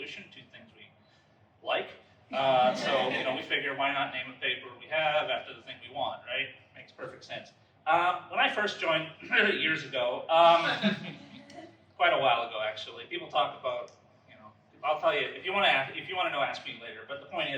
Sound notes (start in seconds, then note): 10.4 ehem